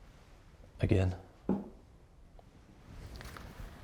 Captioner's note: mug taps